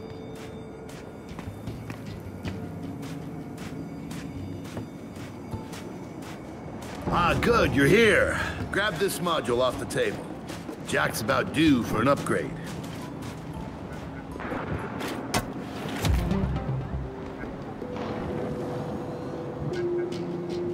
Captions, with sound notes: [footsteps] Ah, good. You're here. Grab this module off the table. Jack's about due for an upgrade. [footsteps]